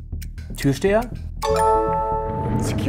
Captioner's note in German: Klingeln